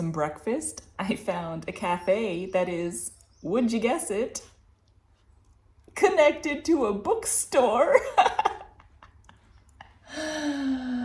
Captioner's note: laughter